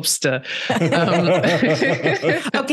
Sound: laughter

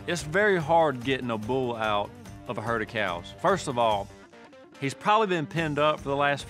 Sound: none

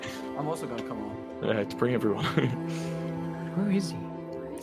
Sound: laughs

